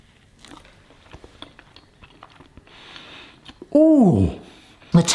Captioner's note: chewing